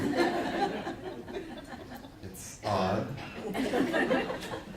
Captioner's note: audience laughing